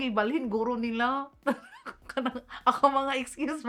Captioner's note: laughs